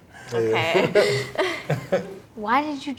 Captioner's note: laughs